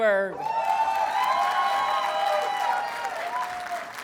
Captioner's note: audience cheers and applauds